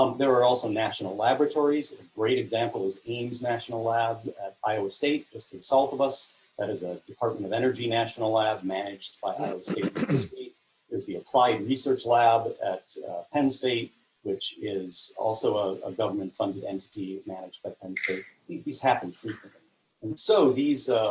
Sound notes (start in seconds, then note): 9.4 distorted sound